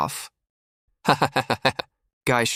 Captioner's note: hehe hehe hehe